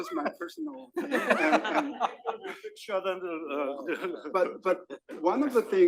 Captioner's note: laugh; laugh